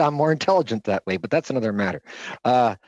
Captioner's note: laughter